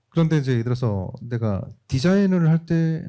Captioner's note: speaking korean